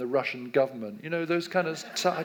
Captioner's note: audience laughs